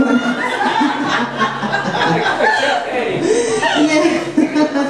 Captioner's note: laughs; audience laughs